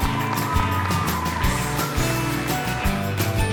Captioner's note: audience applauds; upbeat music